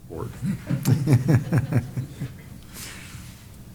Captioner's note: laughter